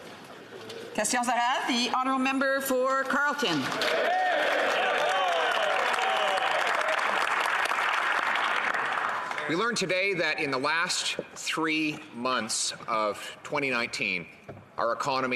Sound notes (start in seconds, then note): 2.1 speaking French; 8.4 some Applause